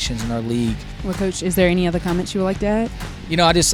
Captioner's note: voiceover